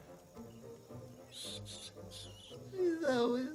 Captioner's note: squeaking